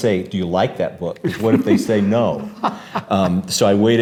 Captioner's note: laughs